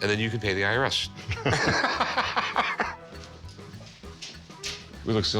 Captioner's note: laughter